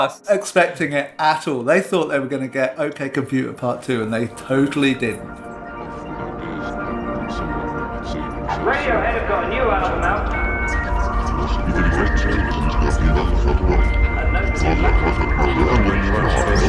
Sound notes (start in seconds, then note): 6.1 soundbite of archived recording; 8.1 soundbite of internet dial-up